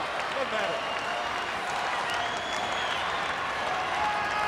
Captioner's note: crowd yelling